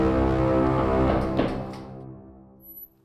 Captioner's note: knock knock knock knock